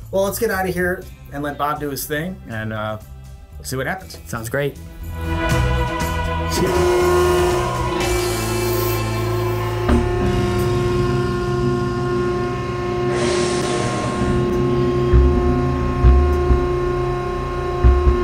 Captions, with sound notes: - Well let's get out of here and let Bob do his thing and we'll see what happens. - Sounds great. (old western music) (machine whirring)